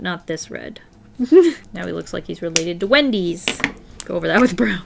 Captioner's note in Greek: χαχανητό